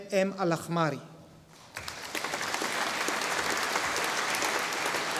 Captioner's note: audience applauding